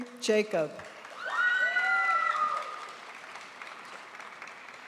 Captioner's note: audience applauds